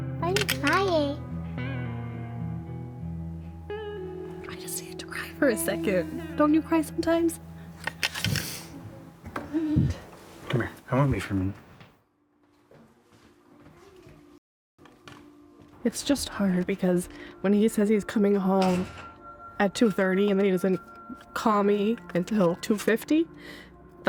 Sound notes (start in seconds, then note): 8.2 sniffles